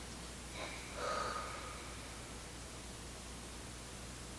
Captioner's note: exhales